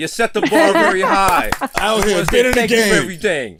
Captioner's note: clapping hands